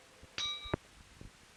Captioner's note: bell Sound